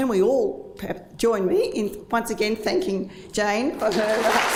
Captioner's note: applause